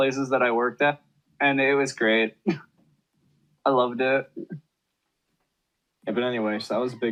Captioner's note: laughs